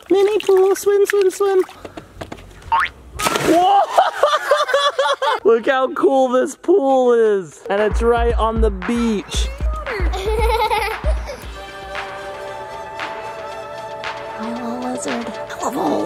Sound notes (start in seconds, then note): 2.7 boings; 3.6 laughing; 9.7 upbeat music